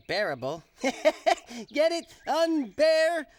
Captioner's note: laughing